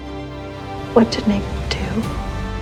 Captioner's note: voiceover